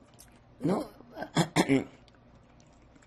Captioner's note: clears throat